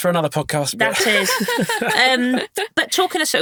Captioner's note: all chuckling